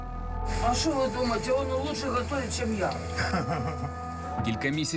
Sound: laughs

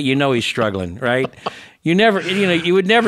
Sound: laughs

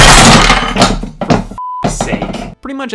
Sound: beep

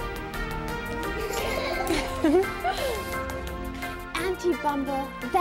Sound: cheerful music; girls laugh

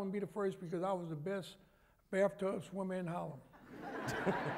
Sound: laughter

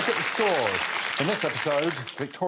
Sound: all applauding

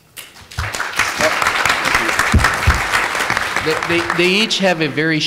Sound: applause

